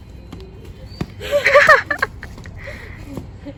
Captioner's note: laughing